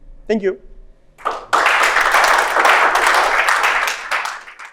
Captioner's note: applause